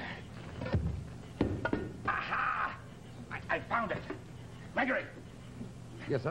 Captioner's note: thump